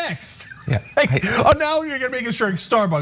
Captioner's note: laugh